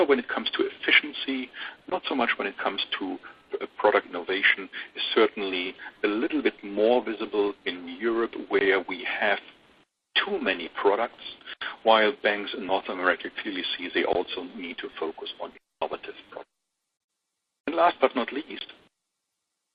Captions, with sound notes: when it comes to efficiency not so much when it comes to product innovation is certainly a little bit more visible in Europe where we have too many products; while banks in North America clearly see they also need to focus on (speaker distorted). And last but not least.